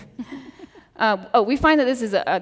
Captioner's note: chuckles